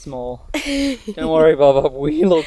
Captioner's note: laughs